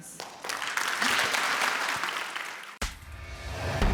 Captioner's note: audience applauding; dramatic instrumental music